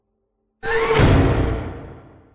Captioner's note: door slams